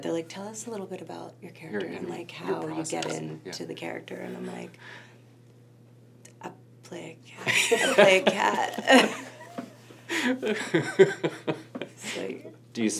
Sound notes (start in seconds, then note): 8.4 laughing